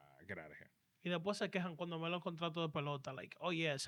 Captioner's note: speaking In Foreign Language